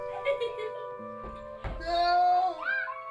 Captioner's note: kids giggling